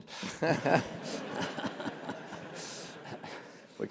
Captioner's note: laugh